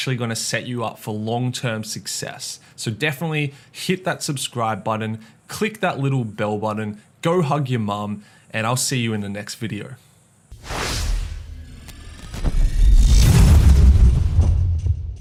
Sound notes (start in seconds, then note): 10.6 animated sound